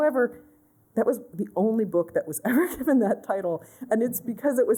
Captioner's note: laughter